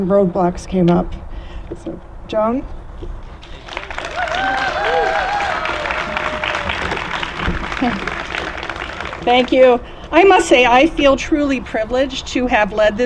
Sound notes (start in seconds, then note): 3.4 applause